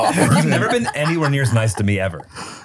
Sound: laughs

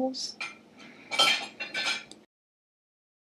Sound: plates medium sound

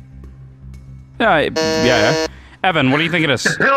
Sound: buzzes

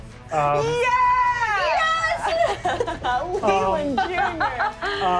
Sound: cheering

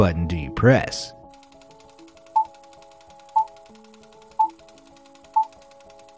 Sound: movie reels spinning and beeps

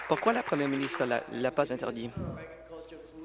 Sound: applause

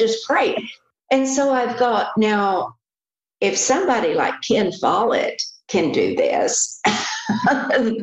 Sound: laughs

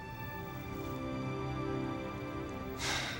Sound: exhale

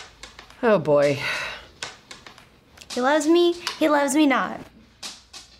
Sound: sighs

